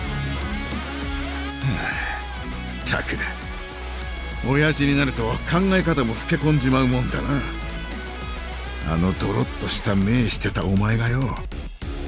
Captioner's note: sigh